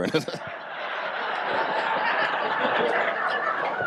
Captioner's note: audience laughs